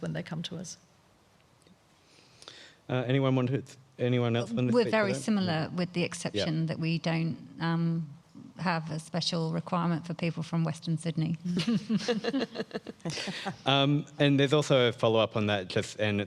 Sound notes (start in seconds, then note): 11.5 panelist laughing